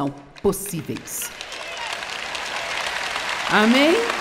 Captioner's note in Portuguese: audiência aplaude